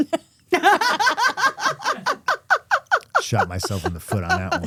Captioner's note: laughing